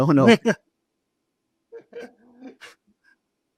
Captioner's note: both laughing